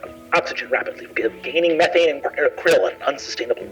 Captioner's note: mimics distortion